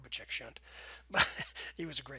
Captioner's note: laughs